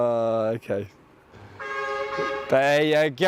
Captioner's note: horn sounds in distance